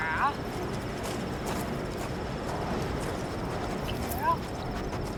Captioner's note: wind blows; dog panting